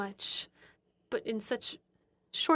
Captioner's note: speaking French